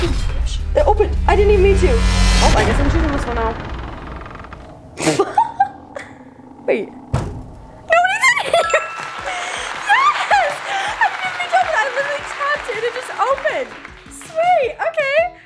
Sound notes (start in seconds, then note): 2.5 door creaking; 3.1 suspenseful music; 5.0 laughs; 8.0 laughs; 8.4 bell chiming